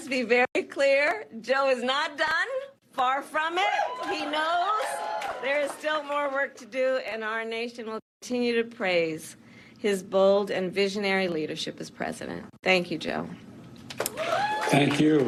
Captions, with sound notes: >> WE LOVE YOU, JOE! >> [ APPLAUSE ] >> YOU ARE THE BEST. >> AND LET US BE VERY CLEAR, JOE IS NOT DONE! FAR FROM IT!